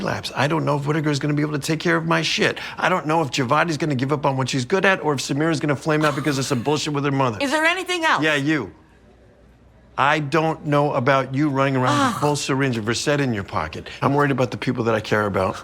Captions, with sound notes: I don't know if Whitaker's gonna be able to take care of my shit. I don't know if Javadi's gonna give up on what she's good at or if Samira's gonna flame out because of some bullshit with her mother. -Is there anything else? -Yeah, you. I don't know about you running around -with a full syringe of Versed in your pocket. -(SIGHS) I'm worried about the people that I care about.